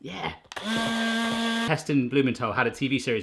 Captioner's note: blender buzzes